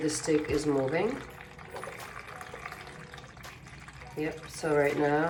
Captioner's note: water pouring continues